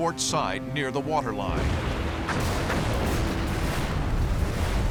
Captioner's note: explosions